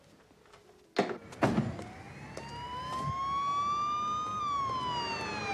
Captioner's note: siren blaring